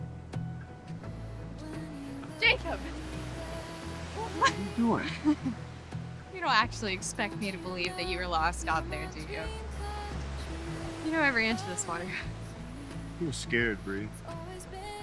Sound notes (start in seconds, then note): 4.1 laughs